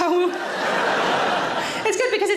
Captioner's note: audience laughing loudly